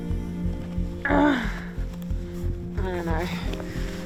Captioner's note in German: grunzt